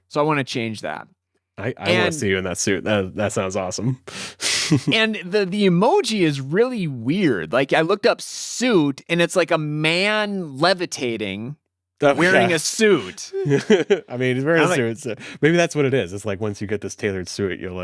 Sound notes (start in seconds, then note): 4.4 chuckles; 12.1 laughs